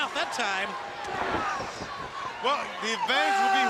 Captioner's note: crowd chatter